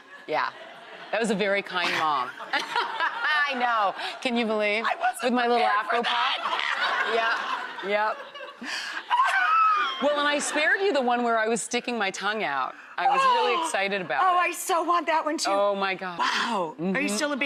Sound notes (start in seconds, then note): 1.8 laughs; 9.0 shrieks